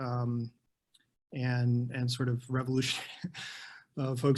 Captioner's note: chuckles